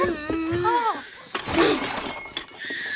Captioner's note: dishes Clatter